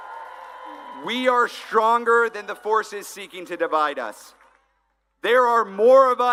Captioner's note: applause